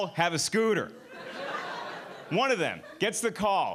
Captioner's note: audience laughing